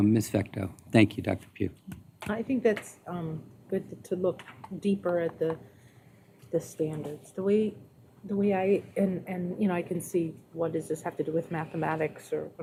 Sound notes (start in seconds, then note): none